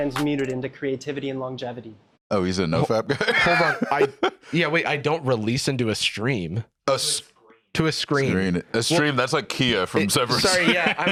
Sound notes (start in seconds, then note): 2.8 laughs